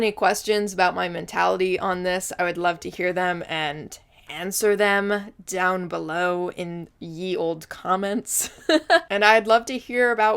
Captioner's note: laughs